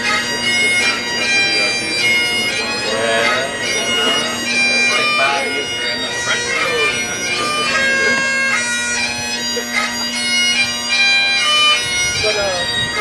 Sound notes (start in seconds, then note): 4.1 speaking faintly; 7.3 bagpipe skirling; 7.3 chattering and laughing